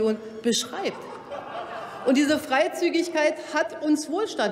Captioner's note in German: Lachen bei Abgeordneten der AfD